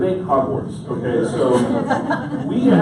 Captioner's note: audience laughs